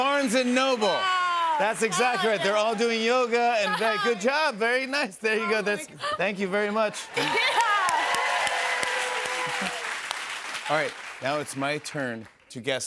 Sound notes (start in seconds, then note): 6.8 cheers and applause